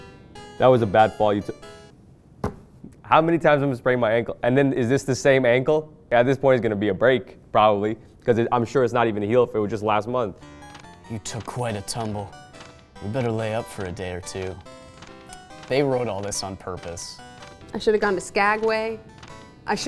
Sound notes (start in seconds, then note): 2.1 thumps desk